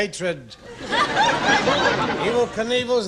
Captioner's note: laughing